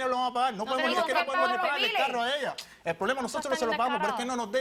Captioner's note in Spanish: Hablan al unísono